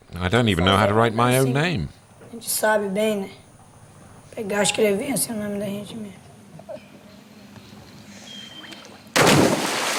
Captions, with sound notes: I don't even know how to write my own name. [Portuguese spoken audio]